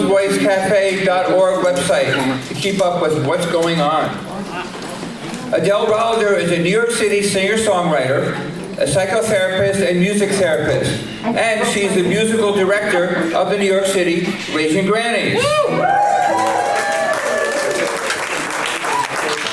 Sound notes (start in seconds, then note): 16.1 applause